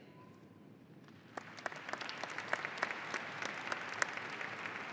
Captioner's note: audience applauding